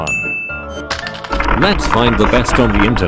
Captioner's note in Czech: Zběsilé klikání